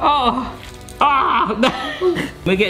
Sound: groaning

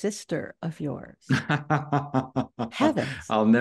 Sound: Jonathan laughs

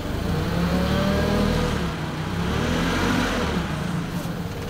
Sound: engine revving

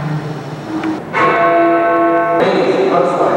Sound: clock chiming

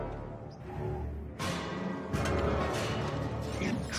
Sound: distant banging and clanging

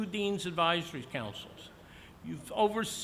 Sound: none

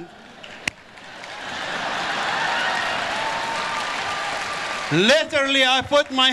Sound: audience applause

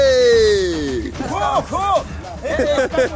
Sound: speaking Portuguese; laughing

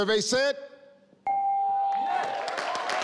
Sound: chimes; crowd cheers

